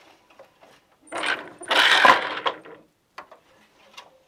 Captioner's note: noise of shuttle moving